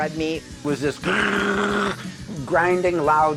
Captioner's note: imitates overdrive guitar